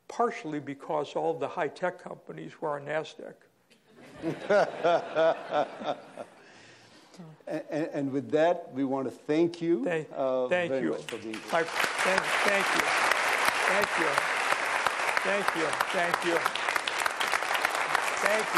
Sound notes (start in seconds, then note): 3.8 laughter; 10.8 applause